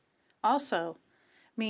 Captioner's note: speaking French